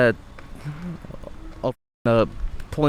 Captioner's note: stuttering